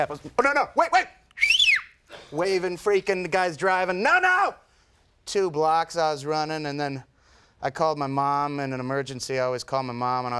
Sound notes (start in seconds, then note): 1.3 whistles